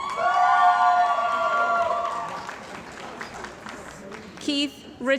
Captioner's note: cheering & Applause